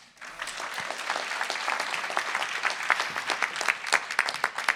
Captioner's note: audience applauding